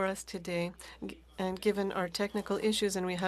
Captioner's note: speaking French